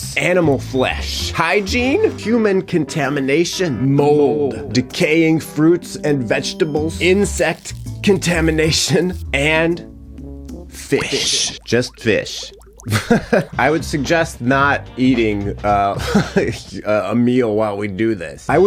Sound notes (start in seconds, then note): 12.8 chuckling